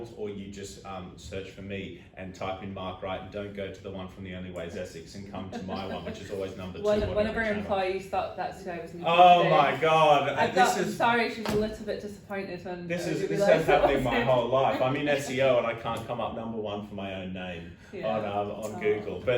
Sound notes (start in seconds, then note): 5.5 laughing; 11.4 thuds